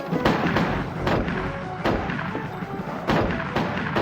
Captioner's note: gun firing